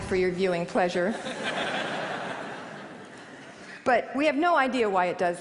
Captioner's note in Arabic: ضحك